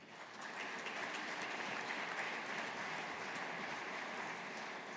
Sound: audience applauding

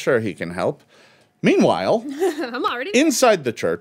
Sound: giggles

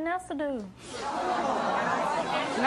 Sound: audience groaning and talking excitedly

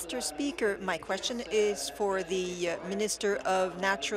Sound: speaking in French

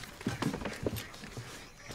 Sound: ducks quacking

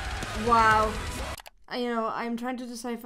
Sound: mouse clicks

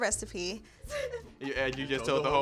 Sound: laughing

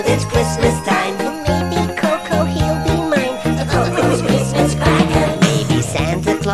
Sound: giggling

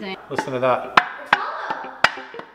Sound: thumps metal

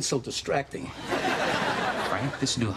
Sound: laughter

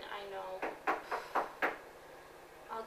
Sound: knocking on door

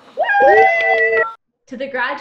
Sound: all cheer

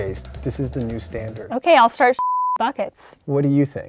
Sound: beep

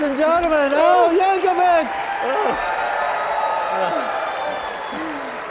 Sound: audience cheering

